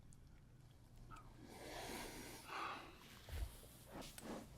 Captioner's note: sighs